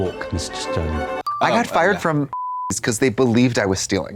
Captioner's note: beep